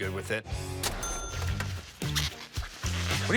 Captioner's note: plastic squeaking